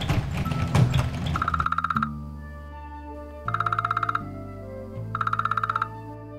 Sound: phone rings

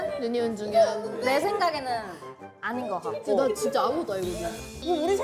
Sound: laughing

